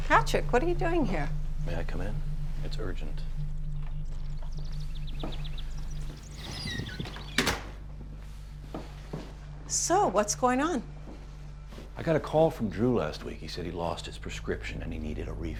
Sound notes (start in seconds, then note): 4.1 birds chirping over tense electronic music; 6.3 door rattling